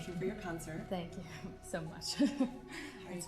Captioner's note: Ridacchia